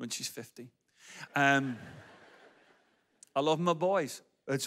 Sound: audience laughs

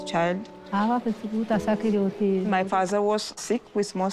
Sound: speaking foreign language

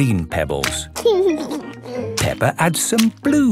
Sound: laughing

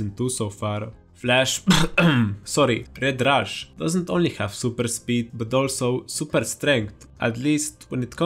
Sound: cough

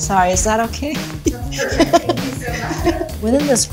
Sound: laughs

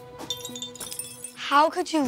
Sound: vase clinking

